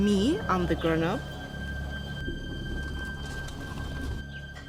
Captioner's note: car approaches